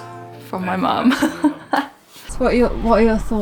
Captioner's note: laughs